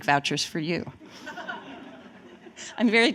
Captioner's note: laughter